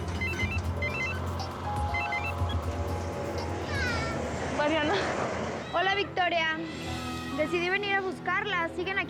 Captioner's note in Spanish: Suena el celular